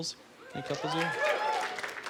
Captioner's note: cheering